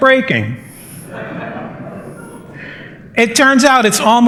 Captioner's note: laughter